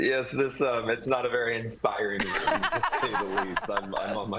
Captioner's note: laughter